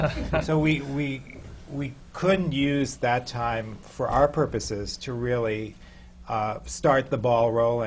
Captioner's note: laughs